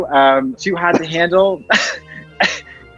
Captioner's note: laughs